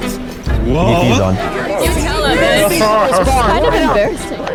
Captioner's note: overlapping chatter